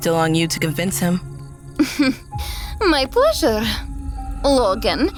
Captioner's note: slight chuckle